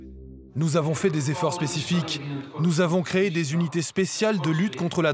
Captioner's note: Dutch spoken audio